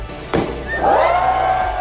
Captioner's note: bottle pops; crowd cheering